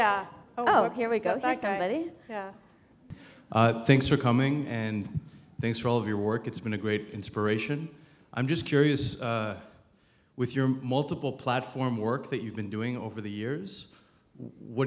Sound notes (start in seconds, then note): none